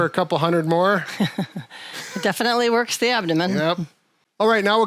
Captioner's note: chuckles